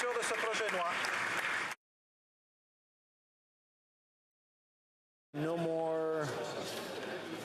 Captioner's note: some Applause